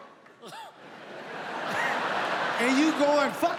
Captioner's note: audience laughs